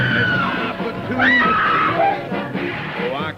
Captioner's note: screams